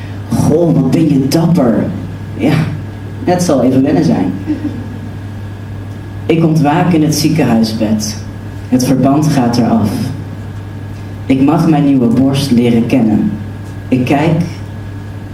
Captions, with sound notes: "Wow, you're so brave!" Yes, it will take some getting used to (Soft laughter) I wake up in the hospital bed The bandages are being removed I can get to know my new chest I look